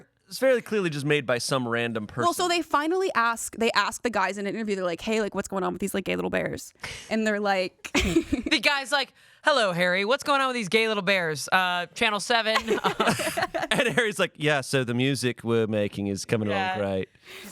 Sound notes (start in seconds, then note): 7.9 laughs